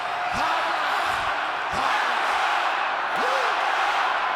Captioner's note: crowd chanting